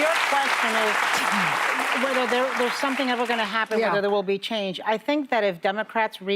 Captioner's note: cheers and applause